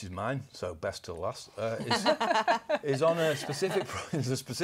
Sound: laughter

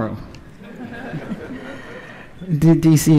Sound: laughter

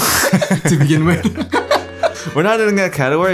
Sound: both laughing

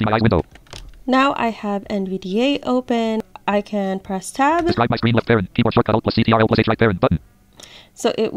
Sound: NVDA Talking

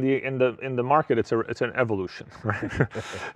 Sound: laughs

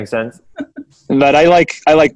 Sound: laughing

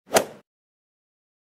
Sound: swoosh

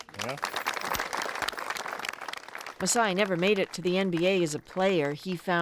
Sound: applause

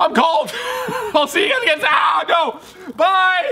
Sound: screams

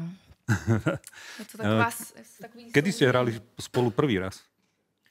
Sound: laughs

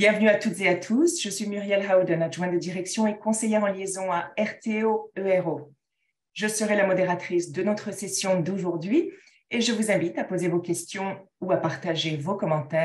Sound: speaking in French

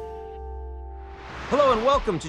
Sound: screen whooshes

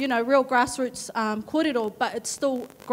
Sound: speaks in a foreign language

